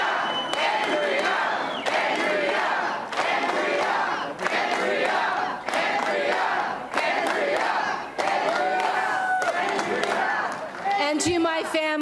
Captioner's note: Crowd chanting "Andrea"